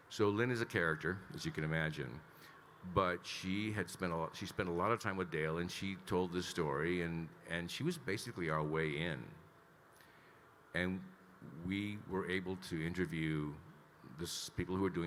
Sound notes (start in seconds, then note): none